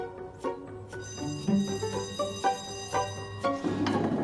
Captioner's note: school bell ringing